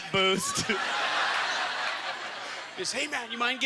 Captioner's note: audience laughter